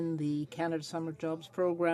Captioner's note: speaking French